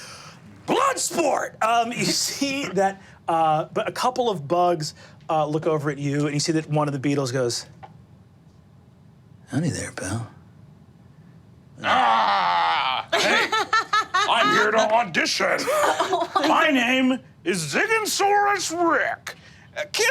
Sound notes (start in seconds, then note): 11.8 growls; 13.0 laughing